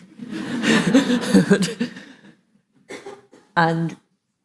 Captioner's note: audience laughing